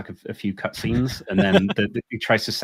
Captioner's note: laughing